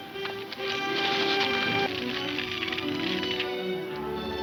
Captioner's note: fire crackling